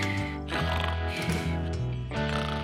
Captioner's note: snoring and whistling